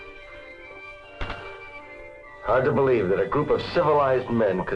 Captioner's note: inhales